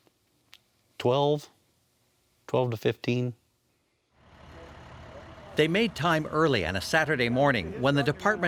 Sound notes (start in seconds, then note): 4.2 fire engine running sound